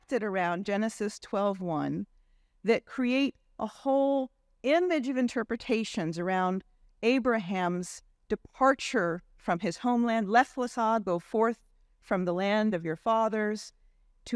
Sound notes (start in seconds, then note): 10.2 faintly speaking